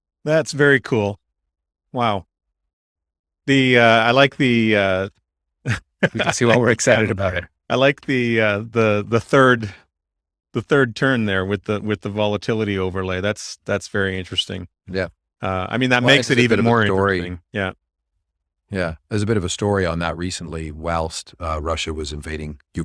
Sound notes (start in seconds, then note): 5.7 laughs